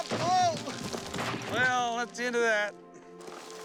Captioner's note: rocks thuds into 4-wheeler